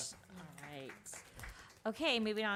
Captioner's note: applause